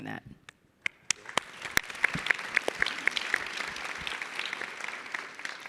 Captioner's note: audience and panelists clapping